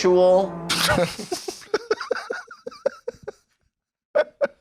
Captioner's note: both laughing; continues laughing helplessly